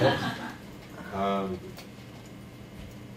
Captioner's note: laughter